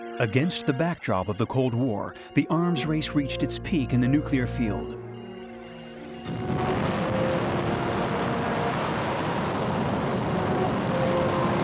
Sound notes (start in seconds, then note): 5.3 suspenseful music; 6.3 booming